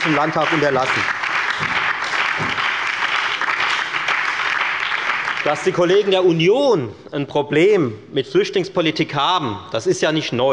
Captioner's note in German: Beifall bei der FDP und der LINKEN sowie bei Abgeordneten der SPD